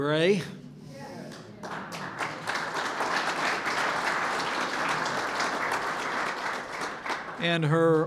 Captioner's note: applause